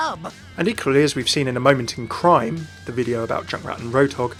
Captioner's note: voiceover